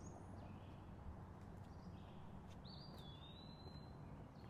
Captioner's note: birds chirping